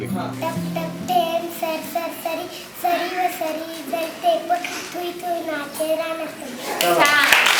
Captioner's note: recites a poem